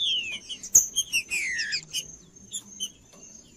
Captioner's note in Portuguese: trinca ferro cantando